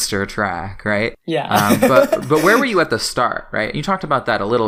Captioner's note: laughs